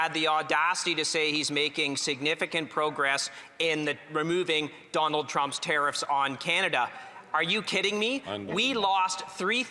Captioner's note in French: voix de l'interprète